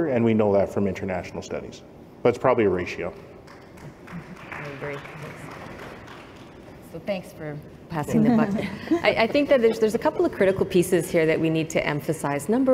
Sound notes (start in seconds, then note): 3.4 applause; 8.4 laughter